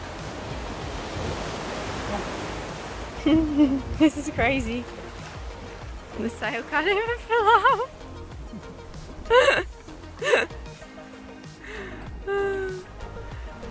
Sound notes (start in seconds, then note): 3.2 laughs; 9.3 laughs; 11.6 sighs